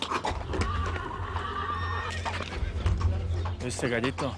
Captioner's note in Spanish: Relinchos y resoplidos